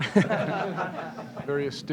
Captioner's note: laughter